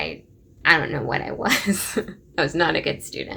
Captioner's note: laughing